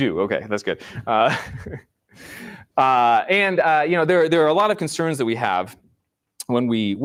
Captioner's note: laughs